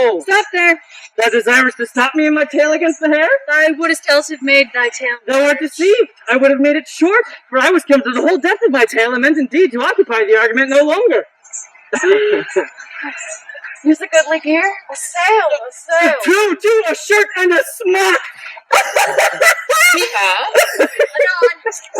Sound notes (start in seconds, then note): 11.8 chuckles; 18.6 obnoxious white laughter